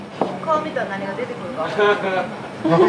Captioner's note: laughter